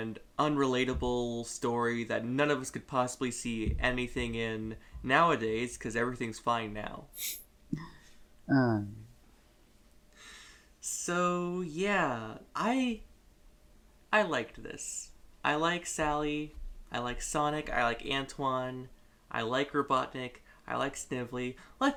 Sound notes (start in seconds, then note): 7.2 quiet snickering